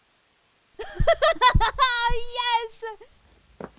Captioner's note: evelynn laughs